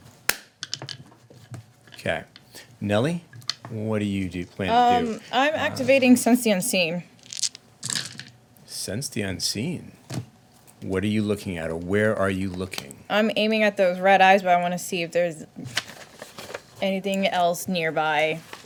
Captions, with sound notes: Okay, Nellie, what do you plan to do? I'm activating Sense the Unseen. (dice rolling) Sense the Unseen. What are you looking at, or where are you looking? I'm aiming at those red eyes, but I wanna see if there's anything else nearby.